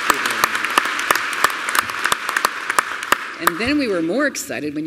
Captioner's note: applause